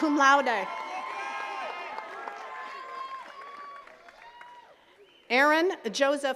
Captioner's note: attendees cheering and clapping